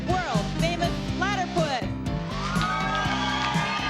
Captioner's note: cheering